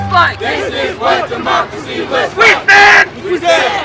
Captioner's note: crowd